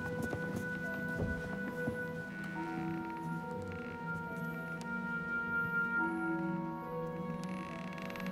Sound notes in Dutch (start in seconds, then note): 2.3 vloer kraakt